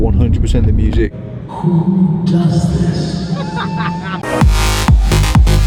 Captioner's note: laughs; upbeat house music